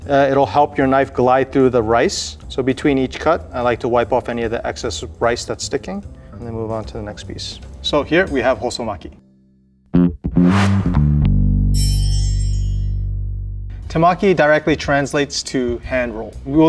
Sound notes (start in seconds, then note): 9.9 jaunty music; 10.0 text chimes